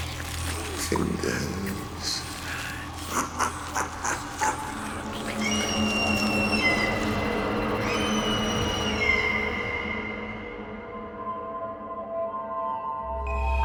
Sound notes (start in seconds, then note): 2.7 laughing; 4.6 seagulls screeching